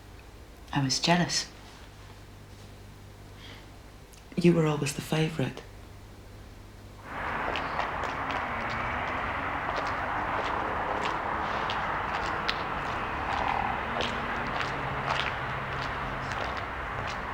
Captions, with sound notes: I was jealous. You were always the favourite. [FOOTSTEPS]